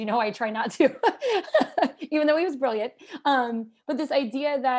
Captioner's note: laughter